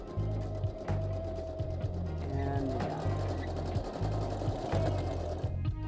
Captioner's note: machine whirring